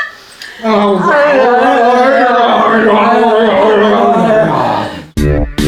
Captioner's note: making out sounds